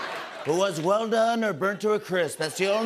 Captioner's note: As Trump